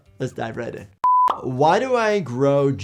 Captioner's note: screen beeping